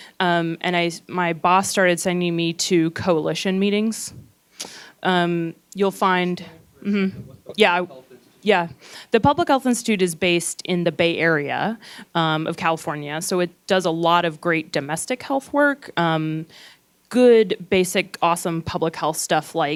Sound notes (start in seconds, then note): 7.8 gentle speaking